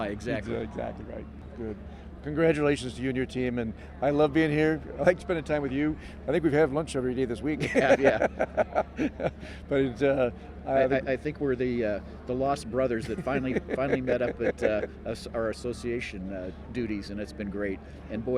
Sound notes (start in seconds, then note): 7.6 laughing